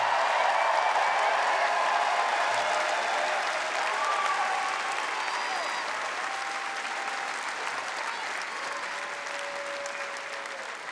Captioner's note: cheers and applause